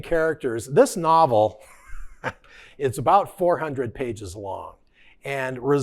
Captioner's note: laughing